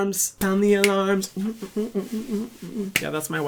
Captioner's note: humming